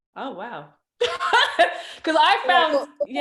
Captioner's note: laughs